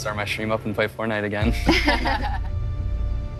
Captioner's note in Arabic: ضحك